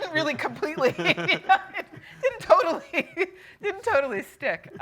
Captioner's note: laughing